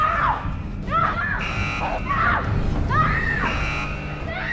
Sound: screaming

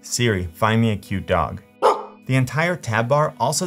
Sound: dog barking

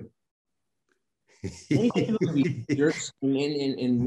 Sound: Denis laughing

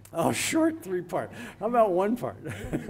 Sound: laughs

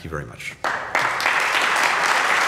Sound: applause

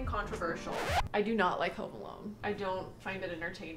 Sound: record scratches

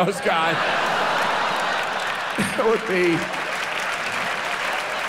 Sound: audience laughs; audience applauds

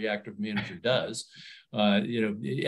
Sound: chuckles

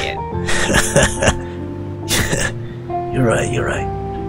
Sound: laughs

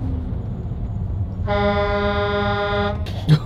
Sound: loud Horn~

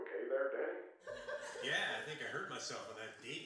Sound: people laughing

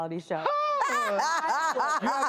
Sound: lady laughing

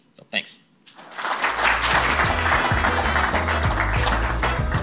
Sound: clapping

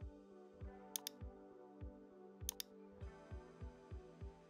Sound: mouse clicking

